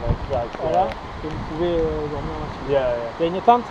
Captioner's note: French